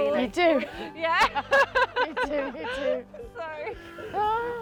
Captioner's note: laughs